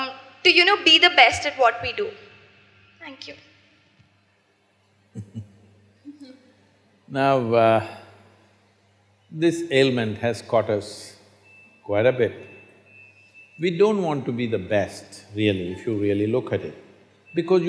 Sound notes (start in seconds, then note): 7.9 laughs